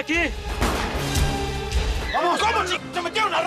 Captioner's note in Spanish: Disparos